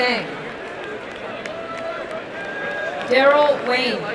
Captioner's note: applause and cheering